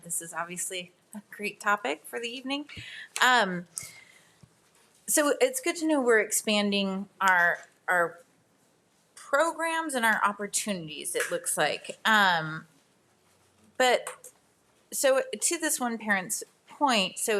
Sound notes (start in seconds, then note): none